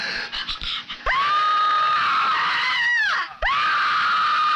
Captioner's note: screams